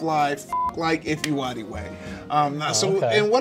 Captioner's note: beep